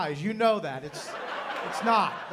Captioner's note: laughter